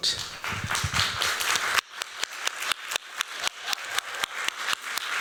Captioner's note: applause